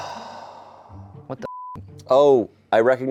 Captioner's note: beep